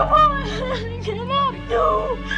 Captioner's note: sobs